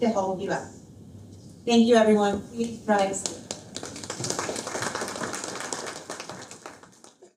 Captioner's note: applause